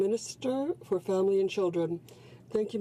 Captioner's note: speaking French